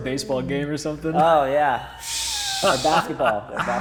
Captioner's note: laughing